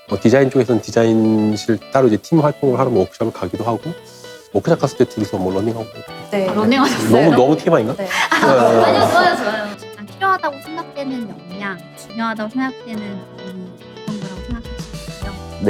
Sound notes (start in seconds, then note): 7.7 laughs